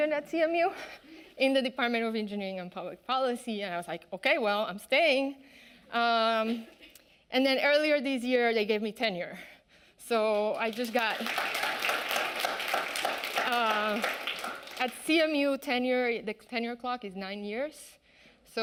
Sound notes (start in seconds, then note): 10.3 audience clapping